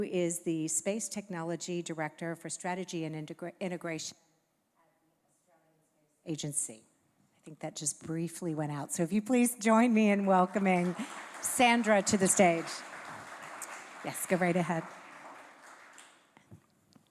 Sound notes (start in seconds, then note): 13.1 applause